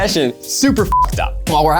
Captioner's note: beep